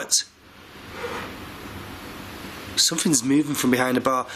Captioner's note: squeaking